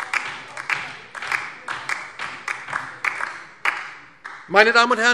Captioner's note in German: Beifall DIE LINKE